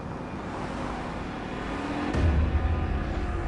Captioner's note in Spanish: Sonido de motores